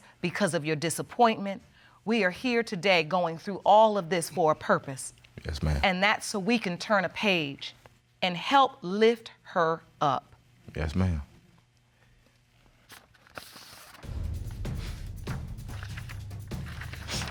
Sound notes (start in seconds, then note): 12.8 envelope rustling; 14.0 dramatic music playing